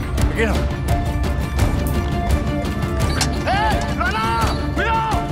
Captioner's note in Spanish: Gritos